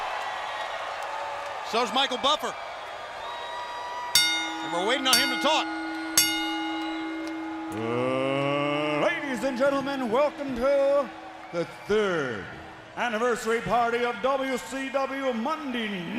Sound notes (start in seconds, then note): 2.2 crowd cheering; 5.2 crowd cheering; 5.8 bell ringing